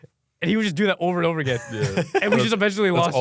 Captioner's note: laughs